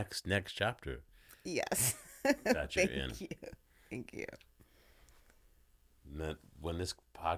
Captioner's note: laughing